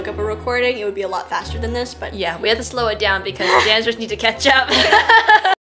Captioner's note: both laugh